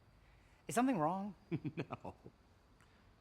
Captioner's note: chuckles